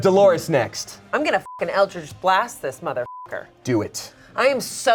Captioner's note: beep